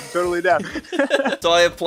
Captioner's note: both laugh